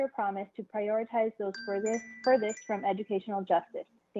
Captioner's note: chime